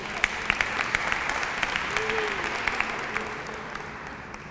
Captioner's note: applause